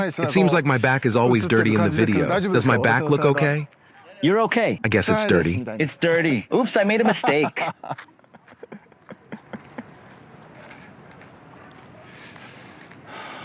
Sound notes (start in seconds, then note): 6.7 laughing